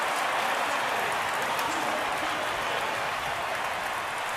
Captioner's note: cheering